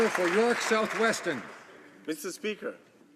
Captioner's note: some Applause